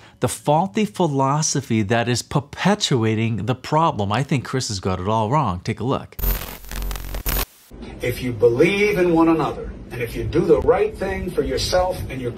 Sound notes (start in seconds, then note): 6.2 timer buzzing